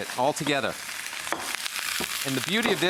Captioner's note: pan sizzling; pestle pounding